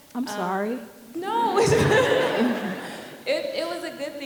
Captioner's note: audience laughing